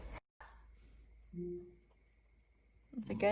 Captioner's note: computer noise